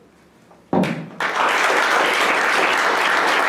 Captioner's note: applause